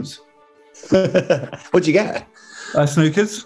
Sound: laughing

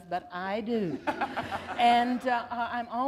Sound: laughter

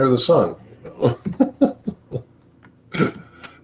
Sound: laughs

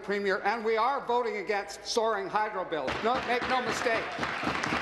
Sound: applause

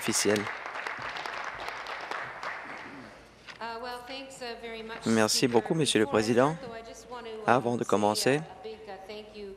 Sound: applause

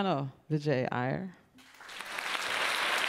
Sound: applause

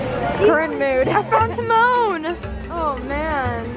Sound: laughs

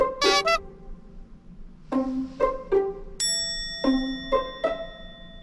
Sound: laughs

